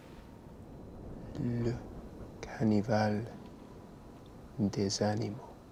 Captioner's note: French spoken audio